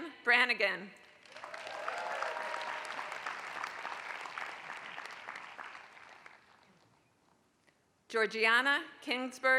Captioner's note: applause